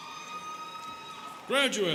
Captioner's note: students cheering